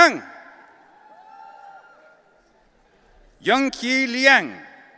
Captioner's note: audience cheering